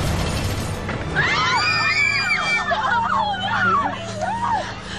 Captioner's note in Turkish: Bağrışmalar